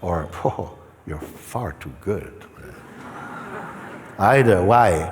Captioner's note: laughter